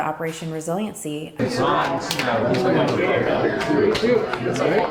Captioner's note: people chattering